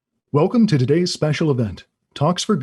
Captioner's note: voiceover